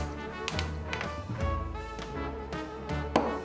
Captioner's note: knees popping